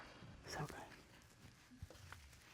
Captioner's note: whispers